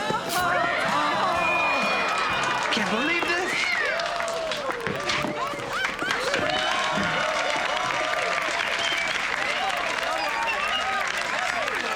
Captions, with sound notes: - ■ Break their hearts, uh-huh ■ (microphone feedback) - I can't believe this! (crowd cheering) (laughter and applause)